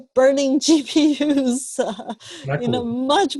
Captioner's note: laughs